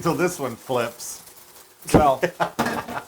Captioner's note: laugh